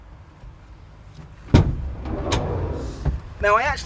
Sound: door slides open and shuts

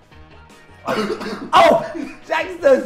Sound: coughing

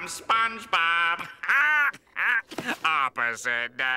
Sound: laughing

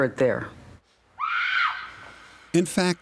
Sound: scream

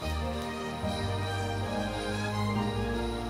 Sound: jingling

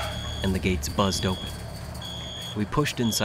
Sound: buzzed

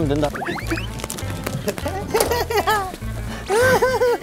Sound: flap

